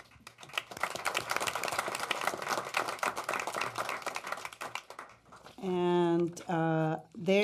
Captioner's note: applause